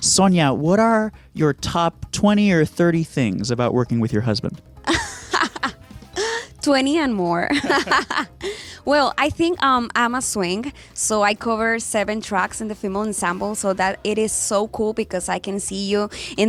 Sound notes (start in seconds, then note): 4.8 laughs; 7.4 both laugh